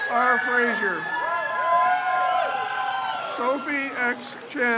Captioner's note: crowd cheers